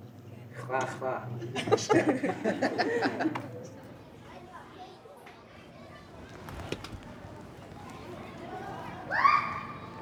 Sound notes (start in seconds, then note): 1.6 all laughing; 1.6 students laughing; 4.2 children playing